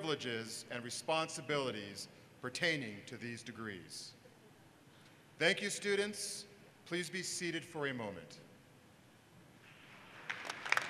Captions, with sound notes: for bachelor's degrees please stand. >> [Applause] >>